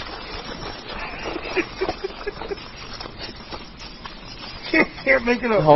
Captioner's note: the two of them giggling